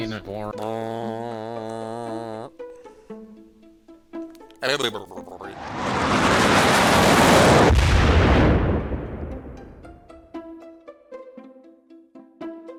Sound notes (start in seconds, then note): 0.3 humming; 5.5 jet engine; 7.5 explosion